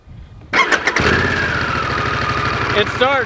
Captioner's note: engine turns on